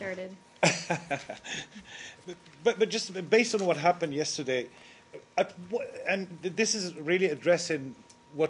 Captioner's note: laughter